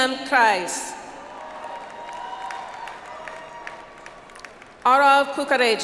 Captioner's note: audience applauds